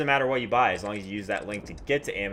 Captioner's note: keyboard clicks